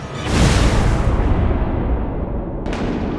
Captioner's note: impact